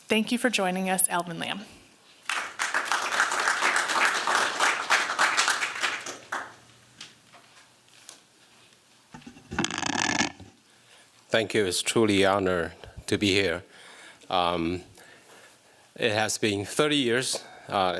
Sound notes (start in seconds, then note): 2.2 applause